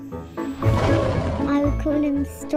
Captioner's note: upbeat music playing; tiger roaring